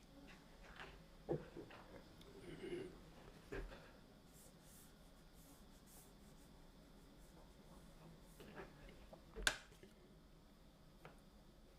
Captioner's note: coughing